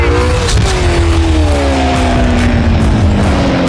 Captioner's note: engines revving